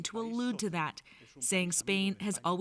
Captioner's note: speaking Foreign Language